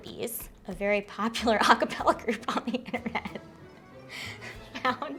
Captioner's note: laughing